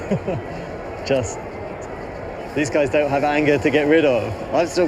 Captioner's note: laughs